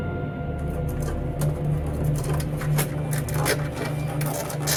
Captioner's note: eerie dramatic music continues; nails screeching